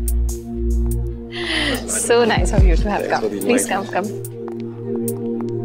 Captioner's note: Gasps